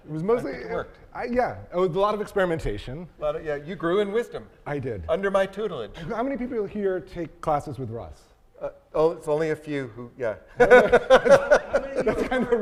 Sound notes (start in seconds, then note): 10.5 laughs